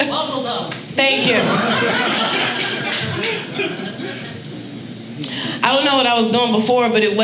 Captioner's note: audience laughing